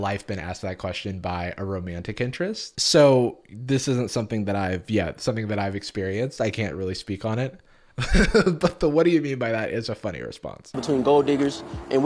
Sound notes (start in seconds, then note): 8.0 laughs